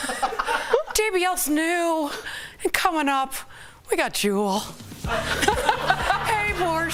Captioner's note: laughter